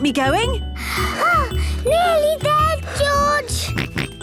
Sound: panting; snorts

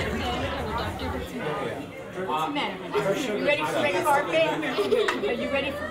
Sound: backstage chatter

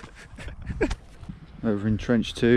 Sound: laughing

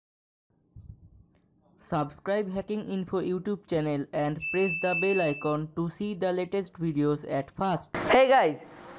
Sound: bell Intro

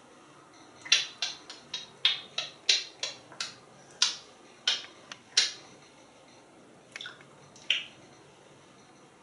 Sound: kisses

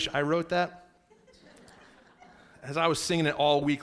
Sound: laughing

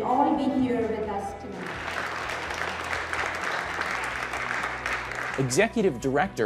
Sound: clapping

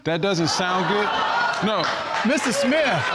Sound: audience exclaiming

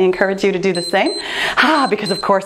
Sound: timer beeps

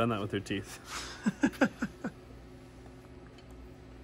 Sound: laughs

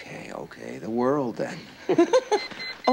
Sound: beeping

